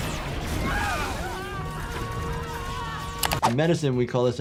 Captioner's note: energy beams zapping; family screaming